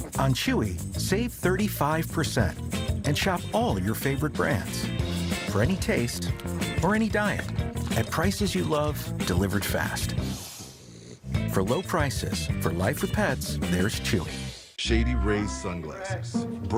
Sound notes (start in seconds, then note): 10.0 dog snoring